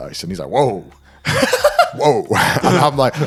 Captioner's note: laughing